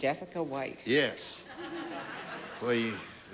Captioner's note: laughter